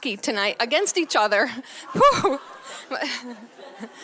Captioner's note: laughs